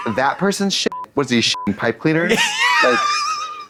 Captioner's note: beep; giggles